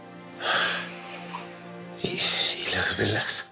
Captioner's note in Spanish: Saúl exhala